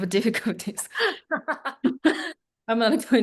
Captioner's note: laughing